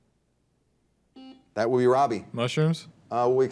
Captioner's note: buzzer dings